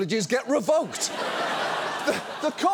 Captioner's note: studio audience laughs